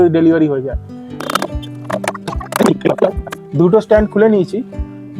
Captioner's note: sound of pipes being removed